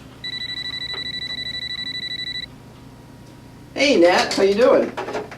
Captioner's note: phone ringing